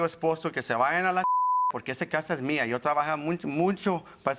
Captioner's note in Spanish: Bip